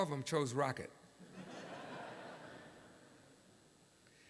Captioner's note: laughter